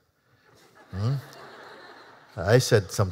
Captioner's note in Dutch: publiek lacht